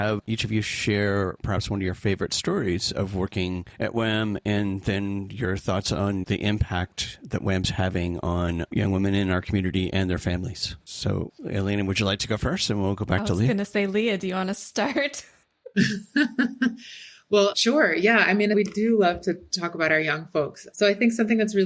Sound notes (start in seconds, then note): 15.7 laughter